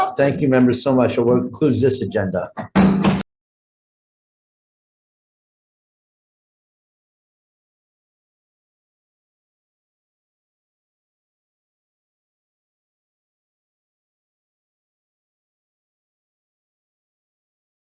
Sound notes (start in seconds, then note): 2.5 gavel knocks